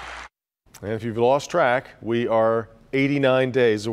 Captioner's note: cheers and applause